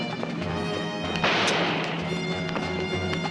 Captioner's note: gun firing